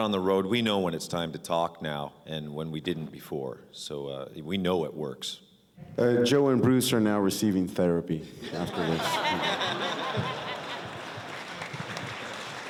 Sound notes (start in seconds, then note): 8.5 laughter/applause